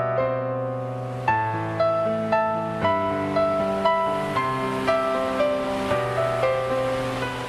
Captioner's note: leaves rustling, rain falling and thunder crackling